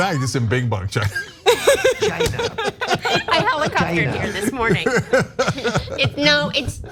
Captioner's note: laugh